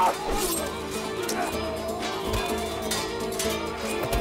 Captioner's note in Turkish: Kılıç sesleri